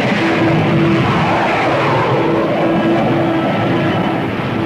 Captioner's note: plane engines revving